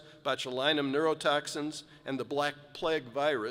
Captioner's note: none